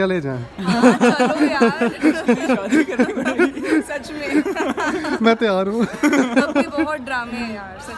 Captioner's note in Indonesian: Tertawa